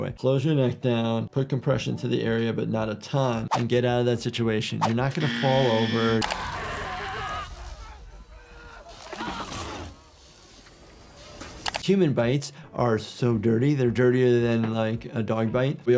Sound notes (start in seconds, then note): 5.1 buzzer buzzing; 6.3 person yelling